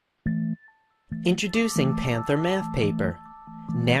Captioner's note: voiceover